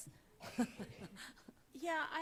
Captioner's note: laughs